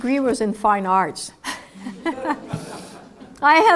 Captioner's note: laugh